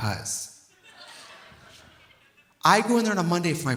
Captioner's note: audience laughing